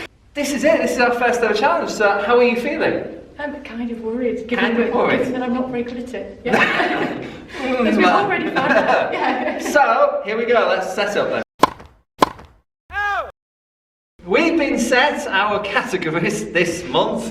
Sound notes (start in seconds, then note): 6.4 laughter; 11.6 tennis hit